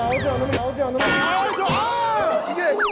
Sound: bang

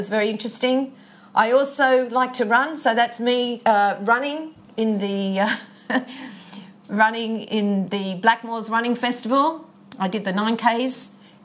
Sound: chuckles

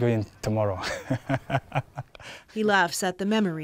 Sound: laughs

